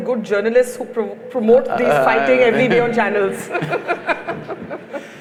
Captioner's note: laughter